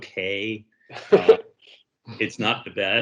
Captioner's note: laughs